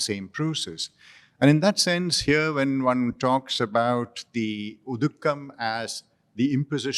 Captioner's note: non-english